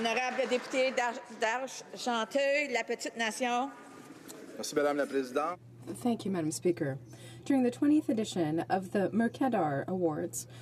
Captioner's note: some Applause